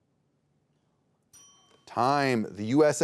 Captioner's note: timer rings